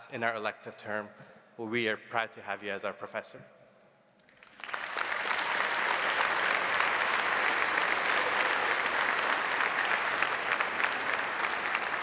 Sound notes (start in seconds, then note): 4.3 audience applauding